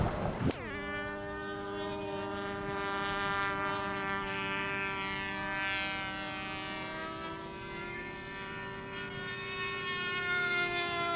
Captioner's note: sound of remote controlled airplane